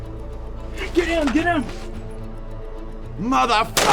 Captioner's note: gun firing